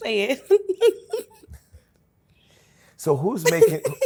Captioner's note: laughs